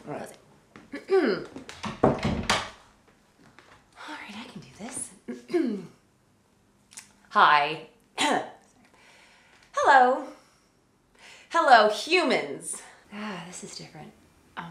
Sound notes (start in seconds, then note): 1.0 clears throat; 8.2 coughs